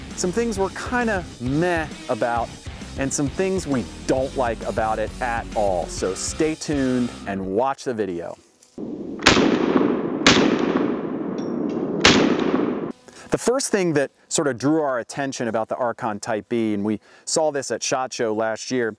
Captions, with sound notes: some things we're kinda meh about and some things we don't like about it all. So stay tuned and watch the video. (gun firing in slow motion) The first thing that sort of drew our attention about the Archon type B, and we saw this at SHOT Show last year,